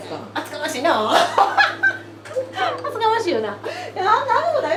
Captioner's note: laughs